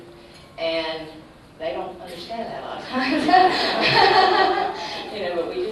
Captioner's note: laughs